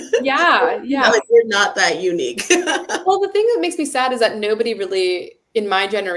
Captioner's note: laughs